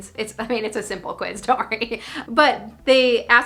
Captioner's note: laughing